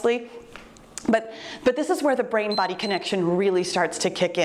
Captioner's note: timer beeps